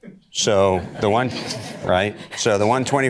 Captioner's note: audience laughter